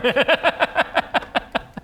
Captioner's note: evil cackle